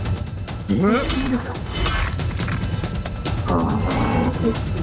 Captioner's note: grunts